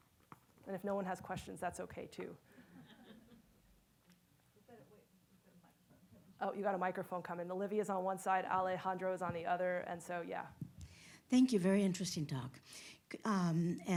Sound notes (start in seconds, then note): 2.6 attendees laughing; 4.9 speaks faintly